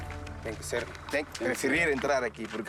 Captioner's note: Portuguese spoken audio